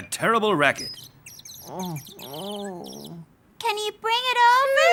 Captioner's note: birds chirping